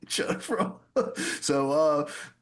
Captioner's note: laughs